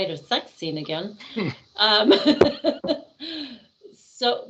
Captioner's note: laughing